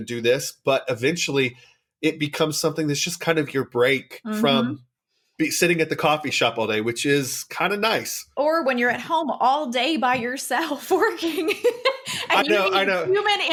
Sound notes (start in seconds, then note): 11.3 laughs